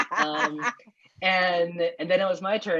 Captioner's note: laughter